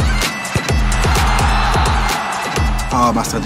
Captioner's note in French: clameur